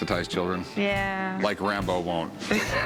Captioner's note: laughter; laughs